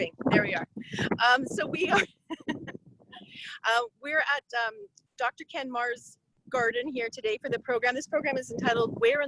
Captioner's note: laughing